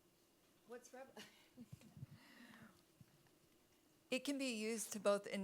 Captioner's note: chuckles